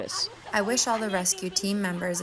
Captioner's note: through translator